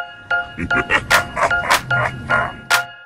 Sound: evil laugh

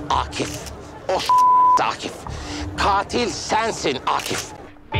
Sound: beep

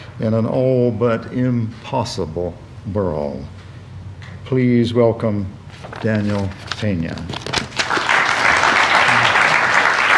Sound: applause

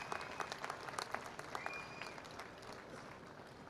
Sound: cheers and applause

